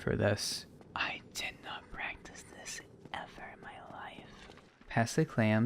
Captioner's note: whisper